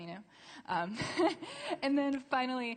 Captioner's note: laughter